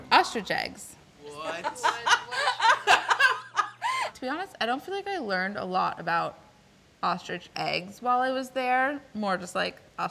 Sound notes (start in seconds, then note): 1.5 laughing